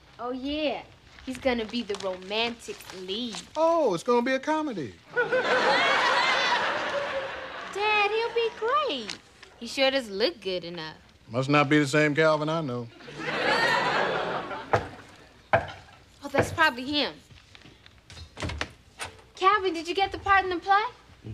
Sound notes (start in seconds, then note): 14.7 knocking on door